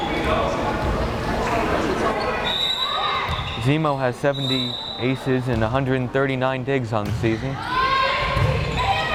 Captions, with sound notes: (whistle blares) Xhemo has 70 aces and 139 digs on the season.